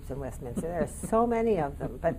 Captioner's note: chuckling